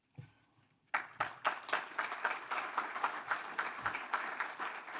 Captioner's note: applause